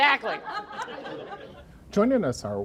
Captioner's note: laughing